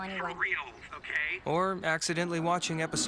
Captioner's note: speakerphone